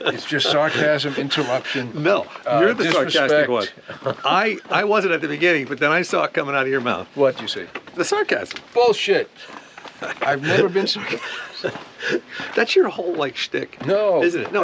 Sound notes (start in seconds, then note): 11.8 both laugh